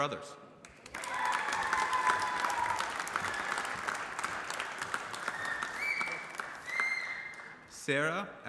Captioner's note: applause